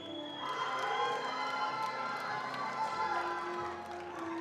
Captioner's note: attendees applauding